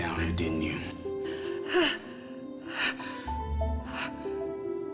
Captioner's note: breathing heavily